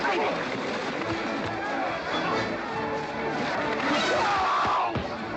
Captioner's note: sounds of scuffling & fighting; western fight music